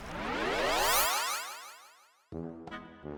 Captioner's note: none